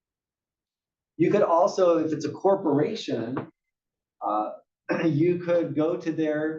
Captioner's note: cough